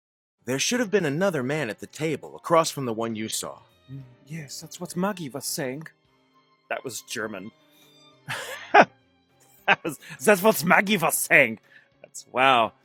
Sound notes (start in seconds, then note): 8.2 laughter